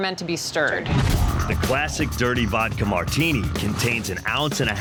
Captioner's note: voiceover